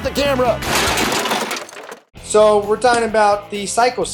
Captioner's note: crash sounds